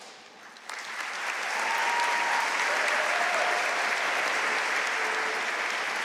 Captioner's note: audience cheering and applauding